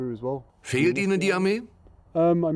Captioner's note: voiceover